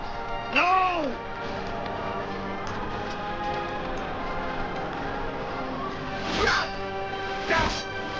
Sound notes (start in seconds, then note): 6.6 grunting